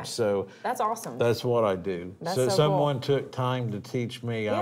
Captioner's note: none